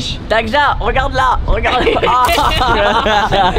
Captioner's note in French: rires